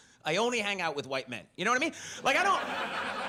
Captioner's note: audience laughs